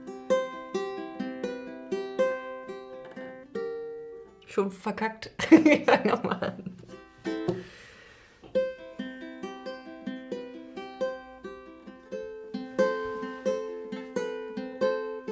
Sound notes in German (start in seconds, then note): 9.5 gelächter